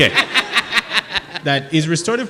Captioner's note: laughing